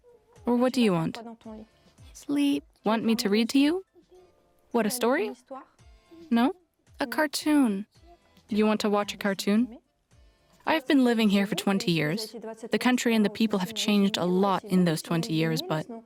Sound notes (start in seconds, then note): 0.4 French